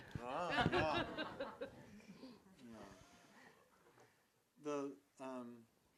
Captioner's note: laughs